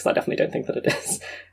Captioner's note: laughs